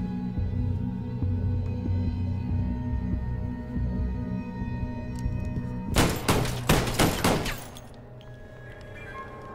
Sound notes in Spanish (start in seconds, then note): 5.9 Disparos